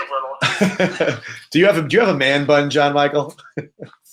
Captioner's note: laughs